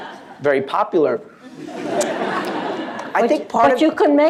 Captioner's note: laughter